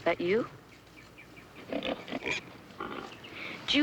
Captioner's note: grunting continues